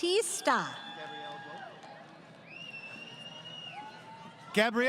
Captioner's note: crowd Cheering